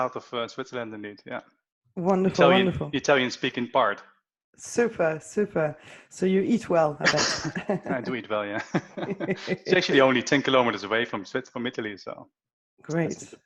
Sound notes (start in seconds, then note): 7.0 laughter